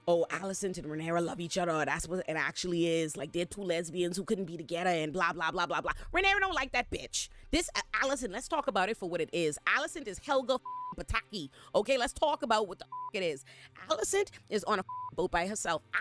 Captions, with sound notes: oh, Allyson and Rhaenyra love each other, that's what it actually is, like they're two lesbians who couldn't be together, and blah, blah, blah, blah, blah. Rhaenyra don't like that bitch. This, Allyson, let's talk about it for what it is. Allyson is Helga (beep) Pataki, okay, let's talk about what the (beep) it is. Allyson is on a boat by herself.